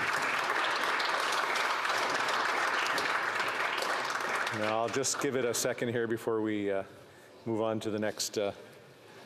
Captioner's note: applause